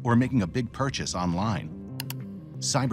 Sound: mouse clicking

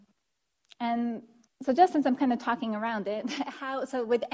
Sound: chuckles

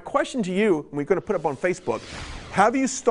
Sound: screens swoosh

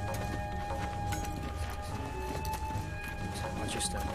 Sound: footsteps

